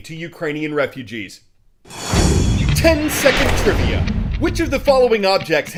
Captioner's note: voice-over